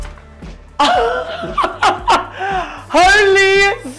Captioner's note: laughing